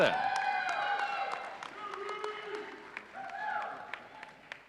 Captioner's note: audience cheering